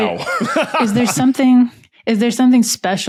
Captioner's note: guys laughing